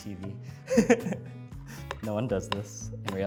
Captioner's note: laughing